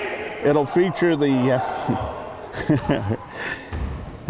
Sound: laughs

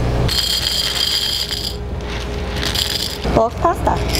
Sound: jar chiming

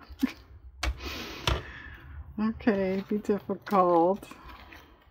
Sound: laughs

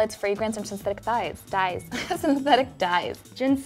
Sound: laughs

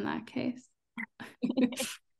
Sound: laughter

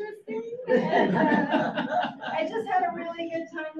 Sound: audience laughs

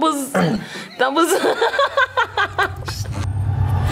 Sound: laughs

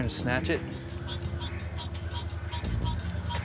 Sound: creature noises in background

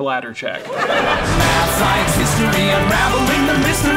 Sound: audience laughing

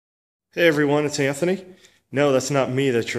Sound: voiceover

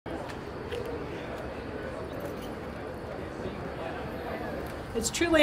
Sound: crowd noise

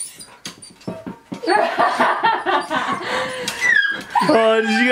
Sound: laughing

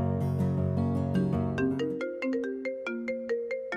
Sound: mobile phone ringing

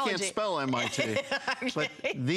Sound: laughter

